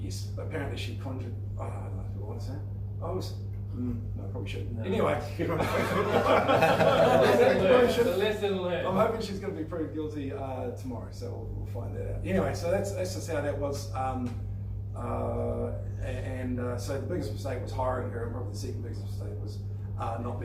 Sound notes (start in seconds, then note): 5.4 laughing